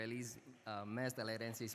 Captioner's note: speaking non-English